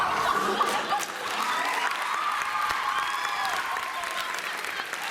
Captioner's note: cheers